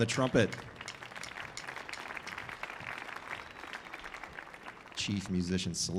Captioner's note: audience applauding